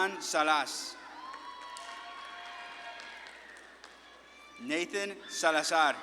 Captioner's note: audience claps and cheers